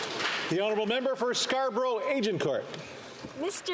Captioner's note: some Applause